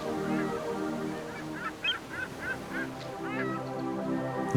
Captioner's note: seagulls cawing